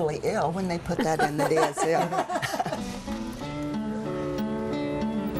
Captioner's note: laughter